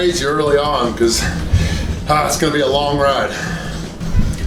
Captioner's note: grunts